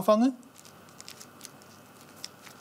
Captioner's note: crackling